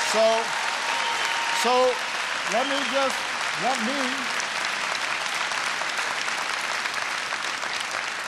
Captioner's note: applause